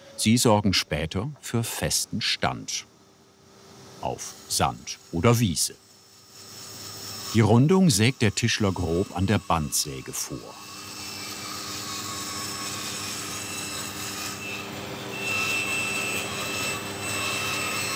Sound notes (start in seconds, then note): 15.0 shrill sawing noise